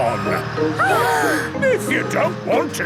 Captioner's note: children gasp